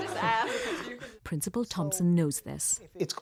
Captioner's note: laughter